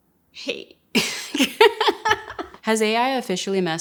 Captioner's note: laughter